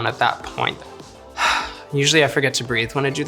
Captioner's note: sighs